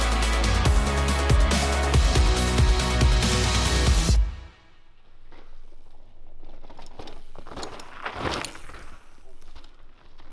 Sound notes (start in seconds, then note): 6.9 bike rattling